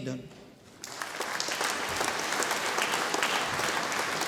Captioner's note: audience applauding